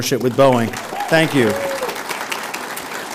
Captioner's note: audience applauds